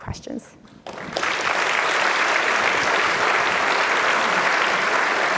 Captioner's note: applause